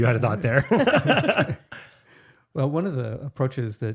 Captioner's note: both laughing